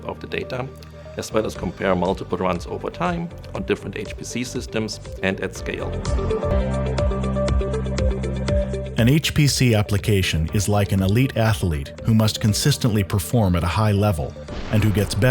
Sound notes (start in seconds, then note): 7.3 voiceover